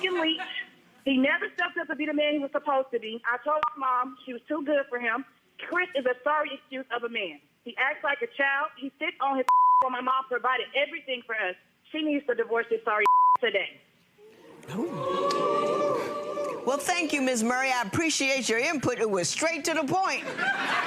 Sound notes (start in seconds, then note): 9.4 beep; 13.0 beep; 14.3 audience jeers